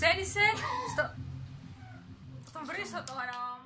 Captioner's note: unknown voice laughing